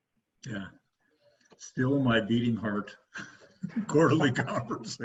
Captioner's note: chuckles